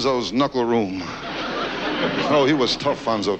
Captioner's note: audience laughs